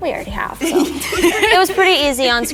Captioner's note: all laughing